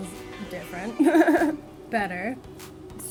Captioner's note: laughs